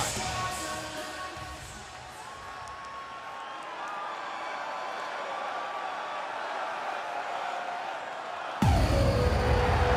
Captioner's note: crowd cheering